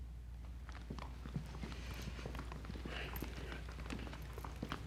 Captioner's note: footsteps thudding